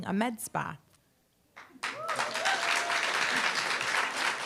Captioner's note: applause, cheer